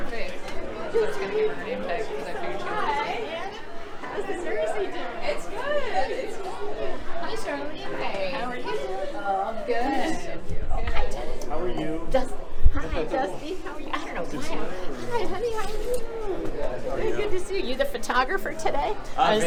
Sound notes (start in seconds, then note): 5.2 chatter